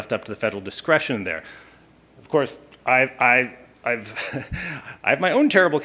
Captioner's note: chuckling